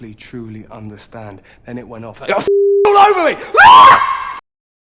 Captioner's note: screaming